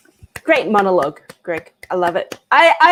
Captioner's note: clapping